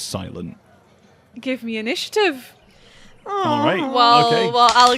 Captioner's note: moans